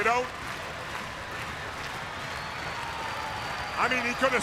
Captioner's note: crowd cheering